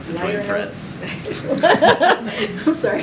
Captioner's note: laughter